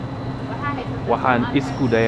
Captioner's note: somali